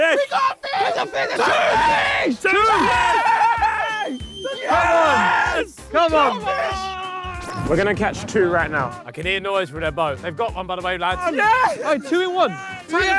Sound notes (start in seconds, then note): 2.3 screams; 3.3 team cheers